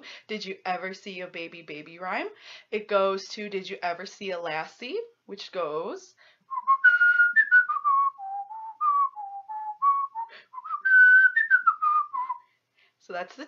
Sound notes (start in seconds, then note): 6.5 whistles tune